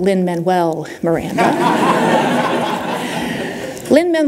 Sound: laughter

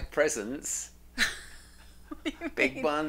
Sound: laughs loudly

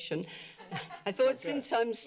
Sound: laughter

